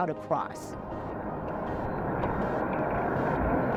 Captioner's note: wave rushing